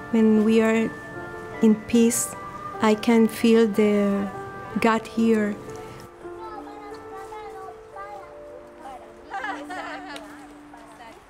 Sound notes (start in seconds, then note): 6.2 children talking